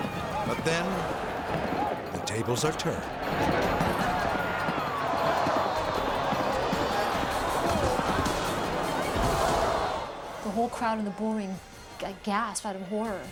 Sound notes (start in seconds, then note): 3.2 crowd shouting; 3.2 intense dramatic music